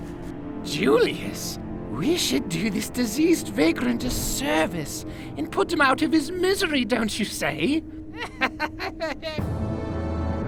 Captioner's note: laughs